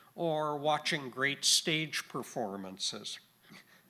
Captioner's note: none